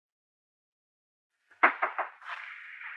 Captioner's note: Knock On Door